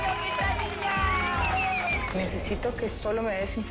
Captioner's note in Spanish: Gritos y exclamaciones